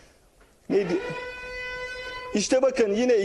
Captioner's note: alarm